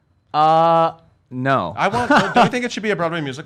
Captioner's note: laughs